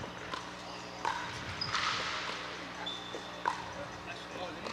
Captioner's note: ball bouncing